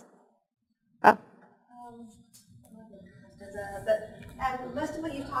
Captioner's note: pause